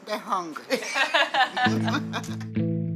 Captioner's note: laughing